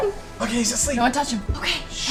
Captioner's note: whispers